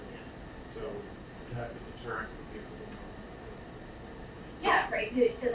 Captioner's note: speaking away from mic